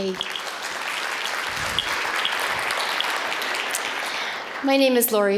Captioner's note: applause